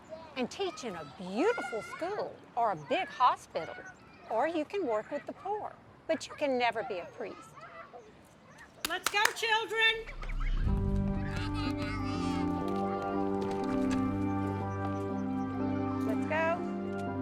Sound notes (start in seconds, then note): 8.8 Sister Jean clapping; 10.3 soothing music